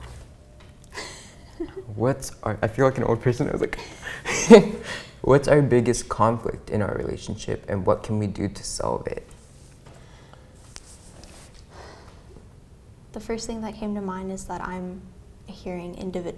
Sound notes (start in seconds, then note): 4.3 laughs